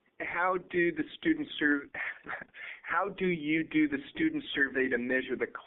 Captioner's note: laugh